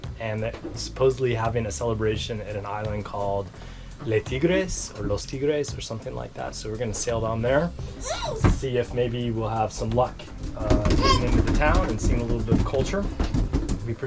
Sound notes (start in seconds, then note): 3.6 speaking foreign language; 7.9 squealing